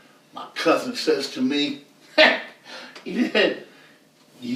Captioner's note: laughs